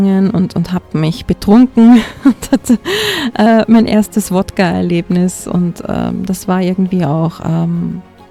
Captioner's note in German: gelächter